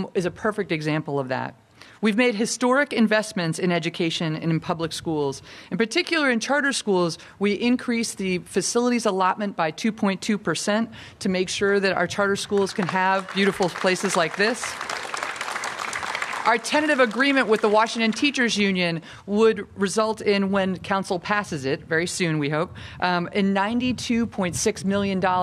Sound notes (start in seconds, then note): 15.4 applause